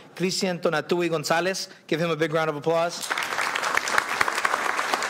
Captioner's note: applause